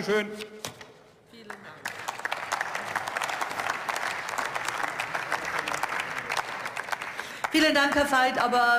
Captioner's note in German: Beifall